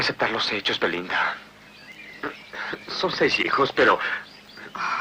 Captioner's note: laughs